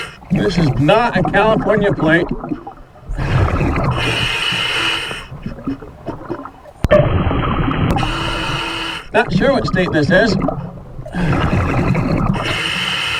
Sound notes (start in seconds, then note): 3.6 regulating hissing; 3.6 water burbling; 12.2 regulating hissing; 12.6 water burbling